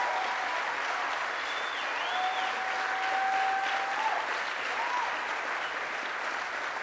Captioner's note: applause